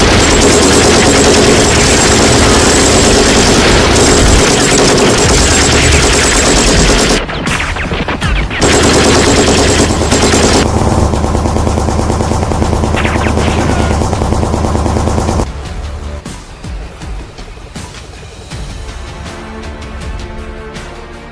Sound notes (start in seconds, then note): 8.9 gunshots banging; 17.6 dramatic music continues